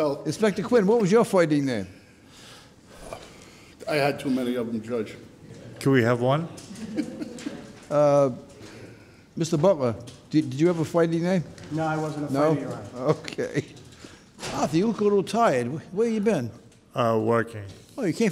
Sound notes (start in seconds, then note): 0.0 laughs; 2.8 sighs; 6.6 laughs